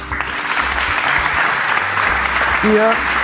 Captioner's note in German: Applaus